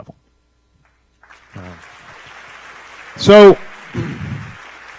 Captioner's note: applause